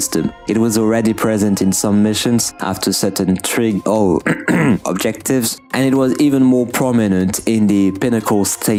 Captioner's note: clears throat